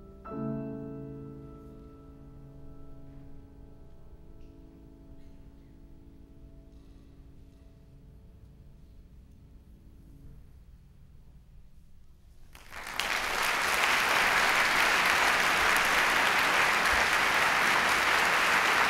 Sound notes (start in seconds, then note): 12.5 applause